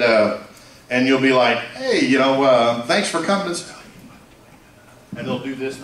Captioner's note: whispering